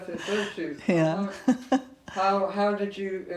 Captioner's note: chuckling